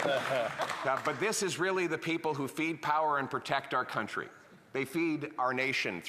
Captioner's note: laughter